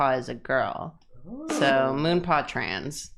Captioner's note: ooing